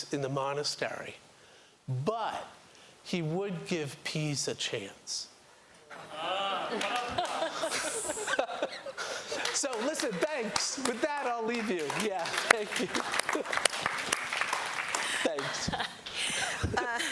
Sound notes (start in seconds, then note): 6.5 laughter; 13.1 applause; 15.0 laughs